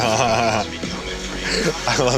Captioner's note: laughs